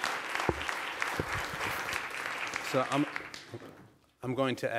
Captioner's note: applause